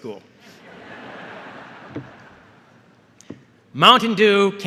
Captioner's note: laughter